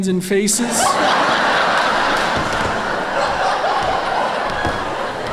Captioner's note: laughter